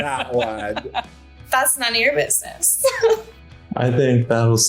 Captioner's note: giggling